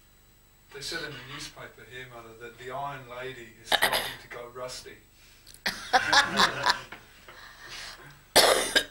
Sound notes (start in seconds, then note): 5.6 shri mataji laughs